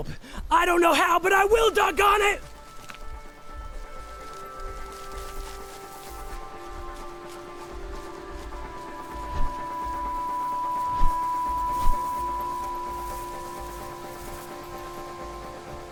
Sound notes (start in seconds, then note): 2.1 swift footfalls padding; 2.1 tense lively music; 9.1 whooshing